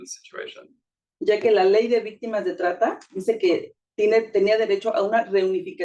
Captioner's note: speaking Spanish